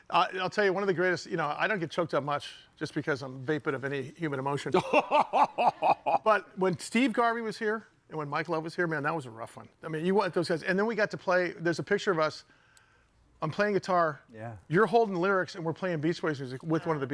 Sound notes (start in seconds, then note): 4.7 laughs